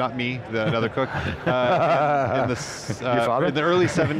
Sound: laughing

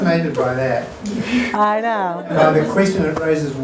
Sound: audience laughter

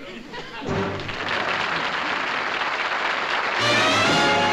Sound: applause

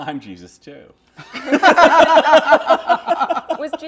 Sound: laughter

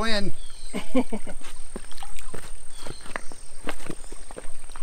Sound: laughs

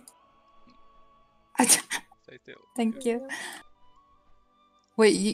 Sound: haha

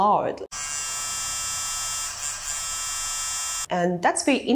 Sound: buzzing sound

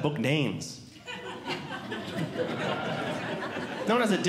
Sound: audience Laughing

